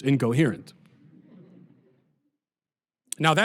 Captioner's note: audience laughter